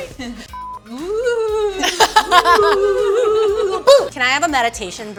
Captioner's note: ghostly moans